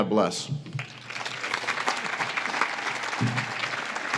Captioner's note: audience claps